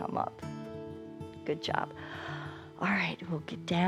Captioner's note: inhales